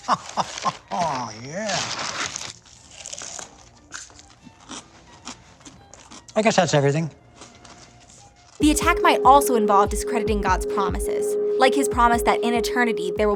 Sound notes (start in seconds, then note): 0.0 laughs; 3.6 crunching